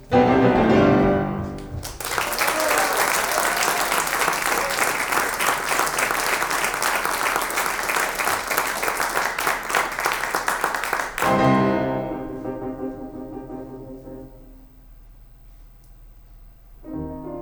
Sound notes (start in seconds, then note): 2.2 audience applauds; 11.2 dramatic piano music